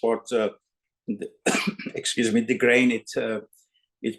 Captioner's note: coughs